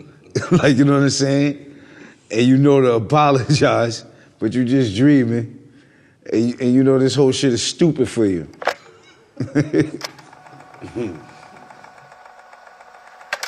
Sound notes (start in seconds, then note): 9.3 laughing; 10.0 film rolling